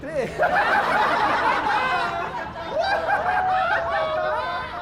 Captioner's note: people laughing